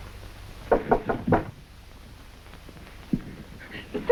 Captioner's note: door knocks